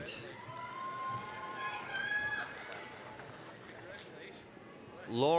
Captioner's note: applause, cheering